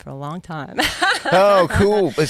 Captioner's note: laughs